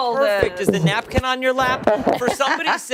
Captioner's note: laughter